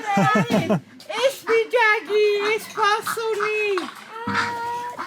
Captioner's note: in Armenian; speaking Armenian